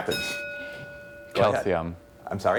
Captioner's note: ding